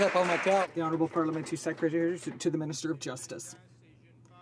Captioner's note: some Applause